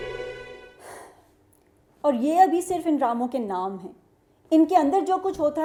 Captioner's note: sigh